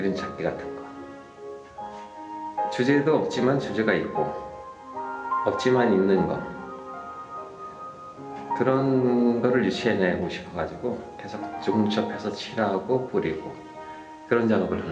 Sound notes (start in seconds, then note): 8.5 continues speaking in Korean